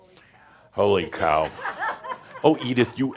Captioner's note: some chuckles